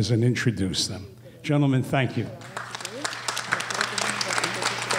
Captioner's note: applause